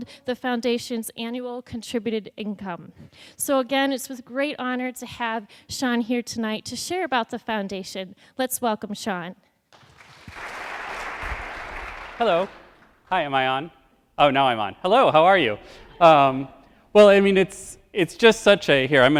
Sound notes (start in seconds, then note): 9.7 crowd claps; 15.4 crowd laughs